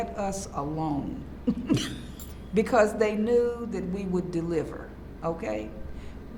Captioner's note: laughs